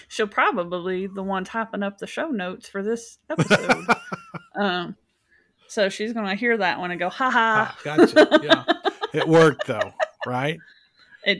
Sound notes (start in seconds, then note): 3.3 laughs; 7.3 laughs